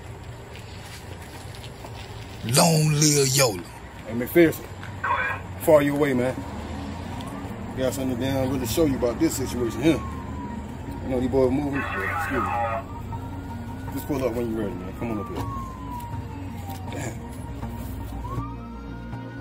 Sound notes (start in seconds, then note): 0.1 footsteps on stairs; 11.6 radio noise; 18.0 siren in background